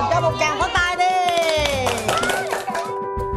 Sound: clapping sound

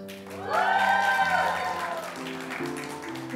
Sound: applause

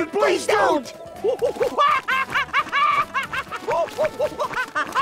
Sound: making chimp noises

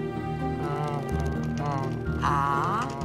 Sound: Costa groans

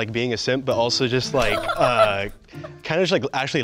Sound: laughs

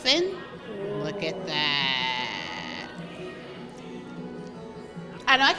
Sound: gasps

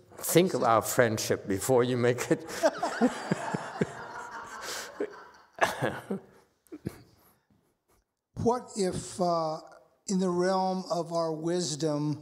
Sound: master laughs, speaker laughs, audience laughs

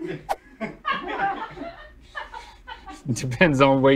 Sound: laughter

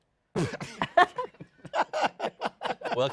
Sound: laughter

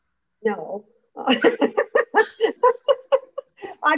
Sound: laughs

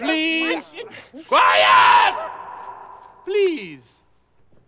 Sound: yells

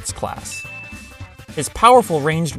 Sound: ding!

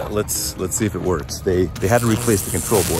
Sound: electrical noises

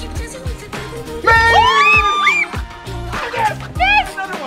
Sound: yelling

